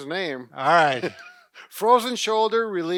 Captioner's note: laughing